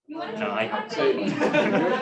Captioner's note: laughter